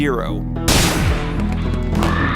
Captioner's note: yet another gun shot; lame scream of pain